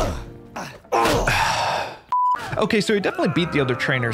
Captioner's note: sighing